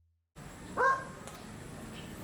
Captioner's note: woof